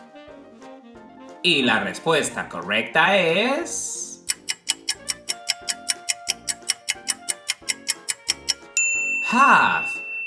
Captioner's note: clock ticking sound